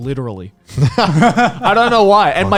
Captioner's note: laughing